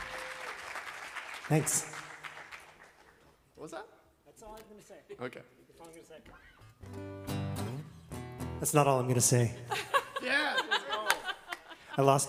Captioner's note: applause